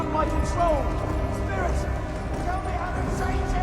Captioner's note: echoing